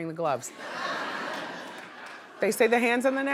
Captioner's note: audience laughing